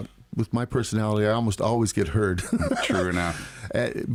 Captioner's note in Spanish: Risas